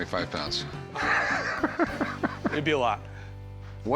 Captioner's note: laughs